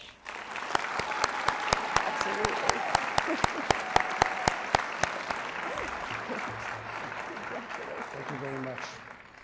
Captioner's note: applause